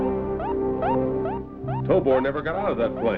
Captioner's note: beeping